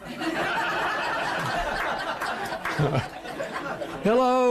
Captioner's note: laughter